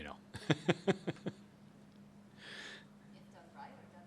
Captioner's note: laughs